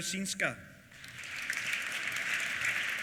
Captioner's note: applause